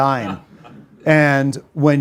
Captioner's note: audience laughs